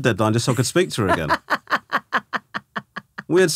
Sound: laughing

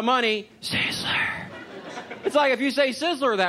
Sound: whispering

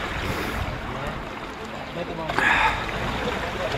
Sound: waves lapping

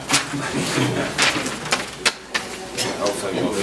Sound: group laughs

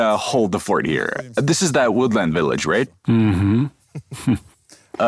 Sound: chuckles

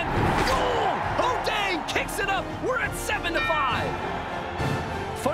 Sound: score dings

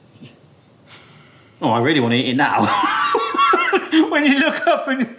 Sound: laughs

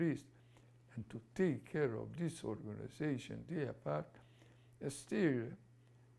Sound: non-english

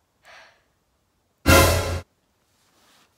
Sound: suspense sound effect

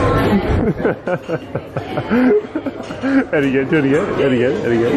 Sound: laughter

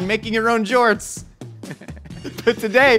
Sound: laughs

